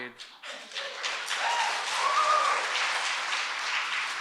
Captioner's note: audience applauding